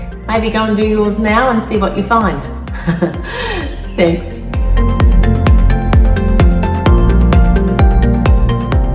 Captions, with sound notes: Maybe go and do yours now and see what you find. (laughs) Thanks. (upbeat music)